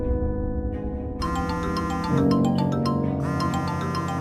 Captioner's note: phone Ringing